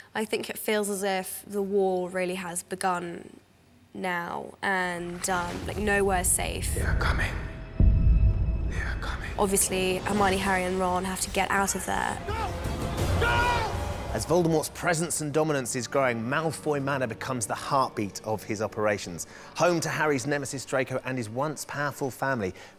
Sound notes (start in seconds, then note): 7.0 whispering